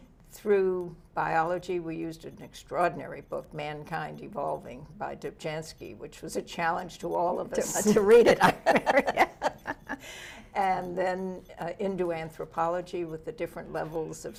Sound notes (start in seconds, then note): 7.4 laughs